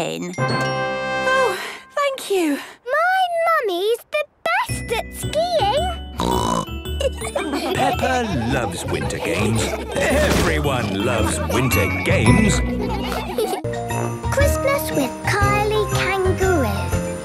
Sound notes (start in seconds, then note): 0.2 triumphant music; 6.2 snorting; 6.6 laughter; 12.6 laughter